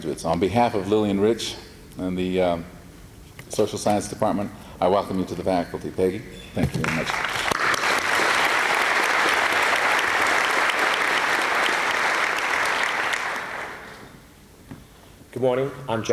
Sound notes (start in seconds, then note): 8.4 applause